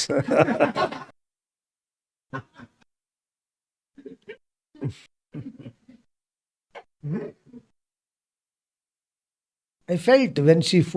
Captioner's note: laughs